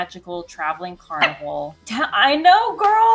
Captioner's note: Butter barks